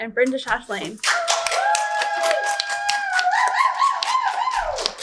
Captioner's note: audience cheers